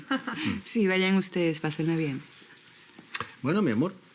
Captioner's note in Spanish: Risas